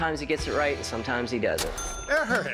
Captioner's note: cash register chiming